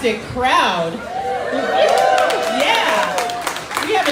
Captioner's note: crowd cheering